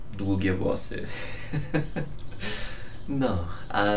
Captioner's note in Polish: śmiech